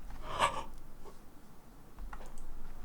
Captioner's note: gasp